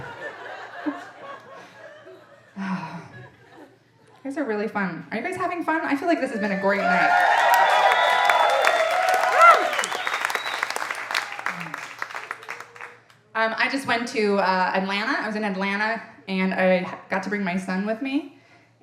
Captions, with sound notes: You guys are really fun, are you guys having fun? I feel like this has been a great night. (audience applauding and cheering) I just went to Atlanta, I was in Atlanta and I got to bring my son with me